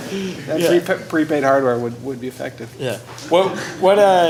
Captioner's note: laughter